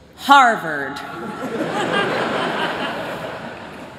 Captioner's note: laughter